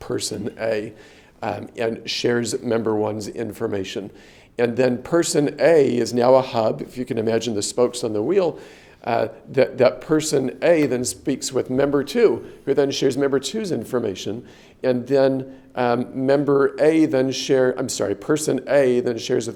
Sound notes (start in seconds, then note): none